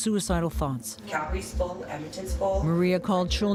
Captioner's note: indistinct chatter